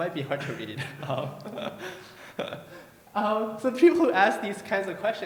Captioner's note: chuckles